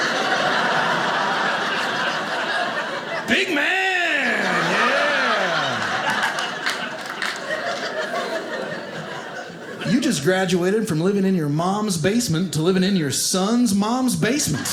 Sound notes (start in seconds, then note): 0.2 audience laughing; 5.8 audience laughing